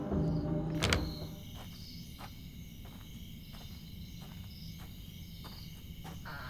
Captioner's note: A night filled with cicadas